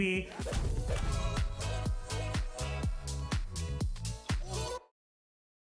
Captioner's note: upbeat music; logo whooshes